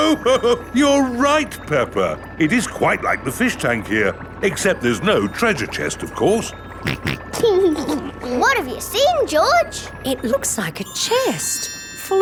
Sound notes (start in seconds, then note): 0.0 laughs; 6.8 snorts and laughs